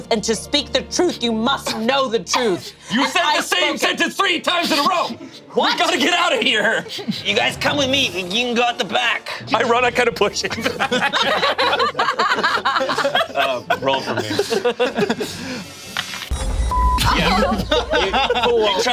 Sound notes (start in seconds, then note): 9.5 group laughs; 16.3 beep